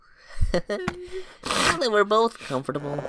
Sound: chuckles

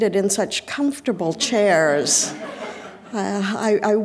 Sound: audience laughing

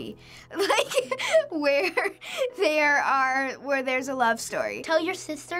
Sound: giggling

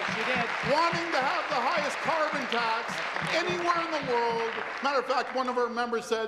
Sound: applause

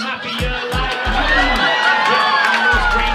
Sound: laughter

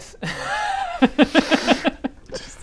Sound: laughs at digging Baradun

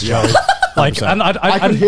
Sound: laughs

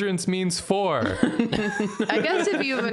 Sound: Jarina laughs defiantly, Sock Nathan joins in

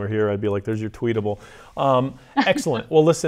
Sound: laughs

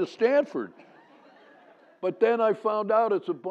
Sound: laugh

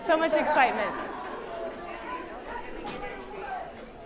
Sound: laughter

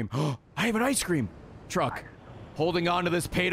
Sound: gasps

